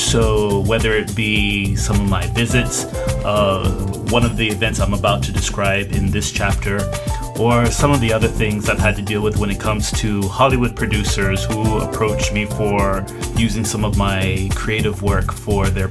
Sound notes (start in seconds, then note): none